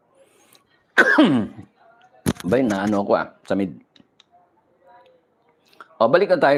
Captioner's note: coughs